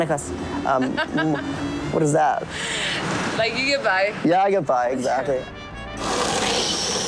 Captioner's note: speaking Spanish